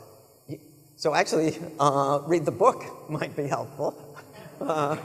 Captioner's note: laughs; audience members laughing